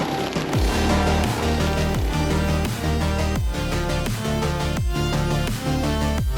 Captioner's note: upbeat music continues; splitter rumbling continues